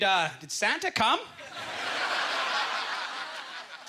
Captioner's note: audience laughter